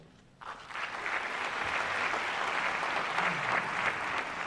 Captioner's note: applause